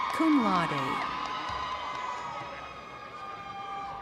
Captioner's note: crowd cheering